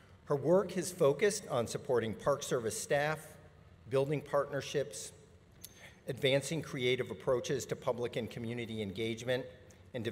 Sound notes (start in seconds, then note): none